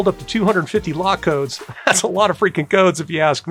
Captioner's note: laughing